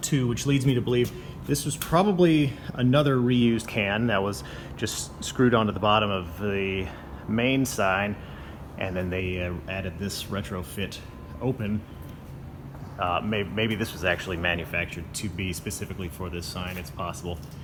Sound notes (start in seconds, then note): none